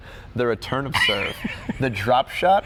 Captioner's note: laughs